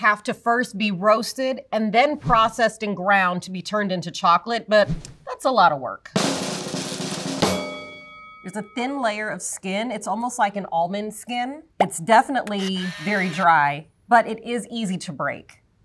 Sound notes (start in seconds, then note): 6.1 drum roll; 7.4 bell dings